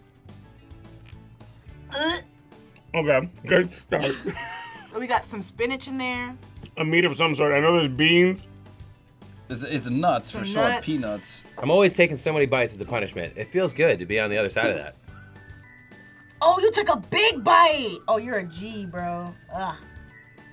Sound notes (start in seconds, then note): 3.9 laughs